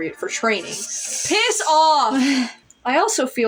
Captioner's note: chuckle; inhale